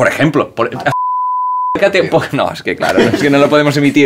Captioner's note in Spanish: Pitido